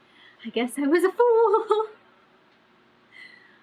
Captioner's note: laughs